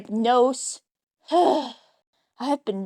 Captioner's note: sigh